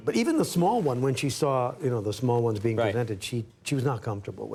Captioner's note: none